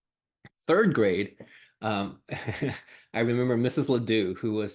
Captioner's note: laughs